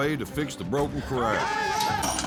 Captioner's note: cowboys shout encouragement; clanking sound